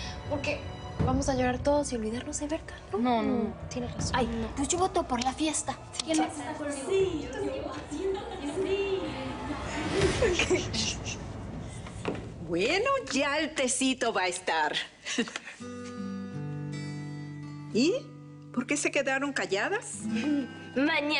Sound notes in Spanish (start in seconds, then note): 8.1 Hablan entre sí; 8.1 Risas